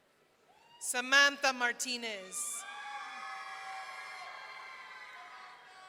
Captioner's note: audience cheering